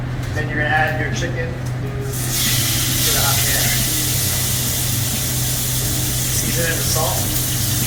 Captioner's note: chicken sizzles